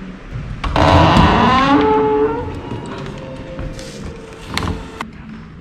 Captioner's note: what is this scary door sound LOL